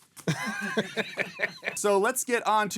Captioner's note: laughing